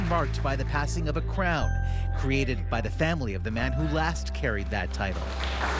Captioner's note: applause